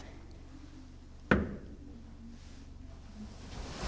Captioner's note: knock